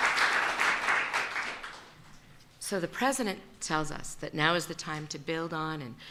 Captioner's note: applause